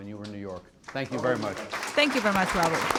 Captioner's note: applause; through translator